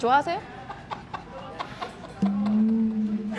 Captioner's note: deep sigh